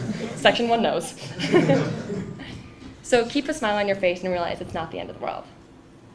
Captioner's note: laugh